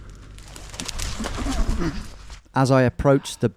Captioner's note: hedge rustling